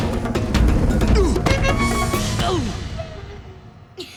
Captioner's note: grunting; laughing